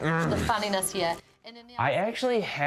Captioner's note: grunts in annoyance